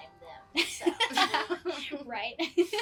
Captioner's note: laughs